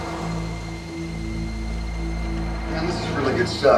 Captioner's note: traffic zooming